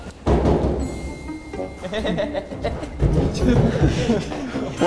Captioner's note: A doll rushes out with creepy laugh